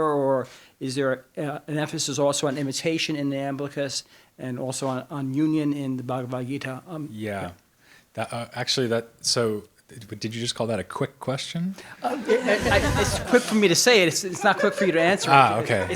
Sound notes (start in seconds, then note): 12.0 audience laughs